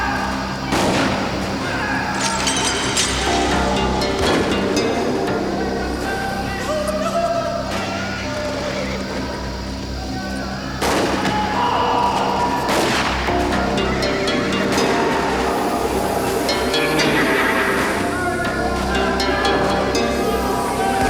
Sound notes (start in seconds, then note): 0.7 gun fires; 2.1 glass shatters; 4.1 gun fires; 6.6 town member whimpers; 10.8 gun fires; 11.5 Sticks groans; 12.7 gun fires; 12.7 horse neighs; 14.7 gun fires; 16.6 Twister laughs; 18.1 townsfolk yell